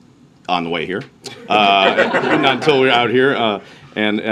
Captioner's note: laughter